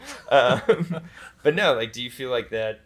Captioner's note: pair laughs